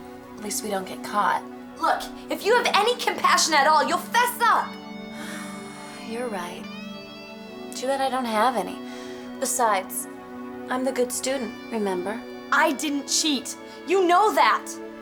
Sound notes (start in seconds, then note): 5.1 sighs